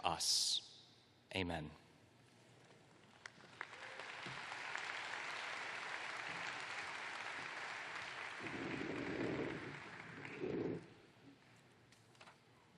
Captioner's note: applause